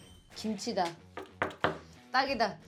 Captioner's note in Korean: 땅땅땅